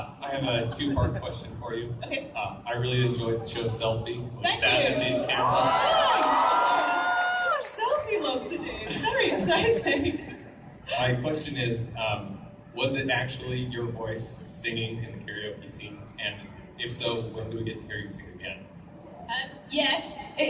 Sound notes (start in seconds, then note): 5.0 audience cheers